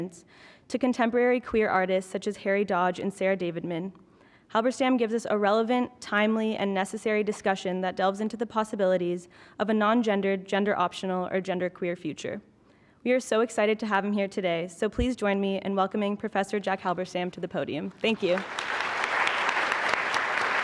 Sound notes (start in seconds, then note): 18.1 applause